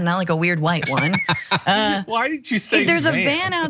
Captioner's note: laugh